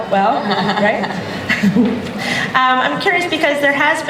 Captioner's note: laughter